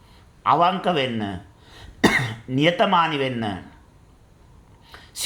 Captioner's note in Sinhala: උගුර කෑරීම